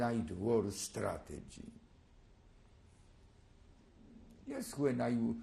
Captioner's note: pauses for 3 seconds